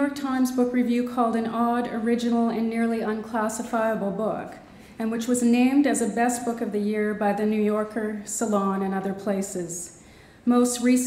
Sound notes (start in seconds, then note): none